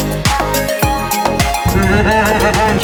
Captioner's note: laughing